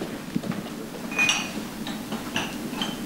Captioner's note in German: Gläser klirren